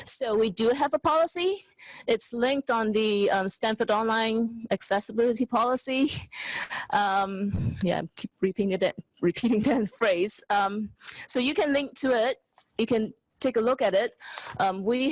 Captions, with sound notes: So we do have a policy. It's linked on the Stanford Online Accessibility Policy, (chuckles) yeah, repeating that phrase. So you can link to it, you can take a look at it.